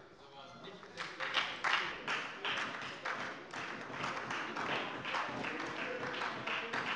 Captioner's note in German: Beifall bei der FDP und bei Abgeordneten der SPD - Zurufe von der CDU